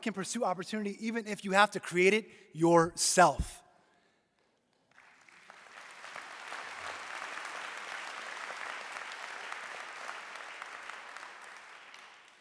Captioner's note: applause